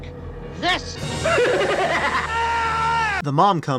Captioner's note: scream